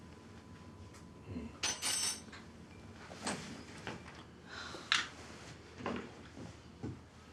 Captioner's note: Abe sighs; spoon clatters